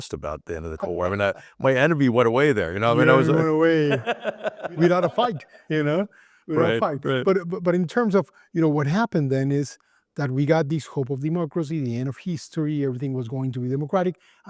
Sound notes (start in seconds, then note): 2.9 laugh